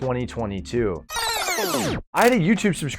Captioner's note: tape screeching